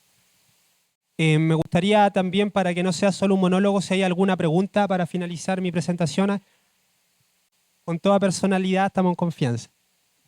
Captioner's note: speaking Spanish